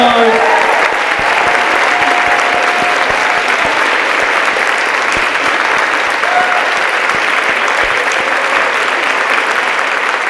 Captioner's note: applause and cheering